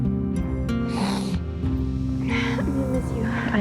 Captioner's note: sniffling